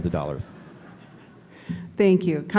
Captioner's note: laughter